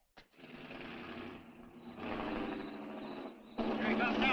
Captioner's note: engine rumbling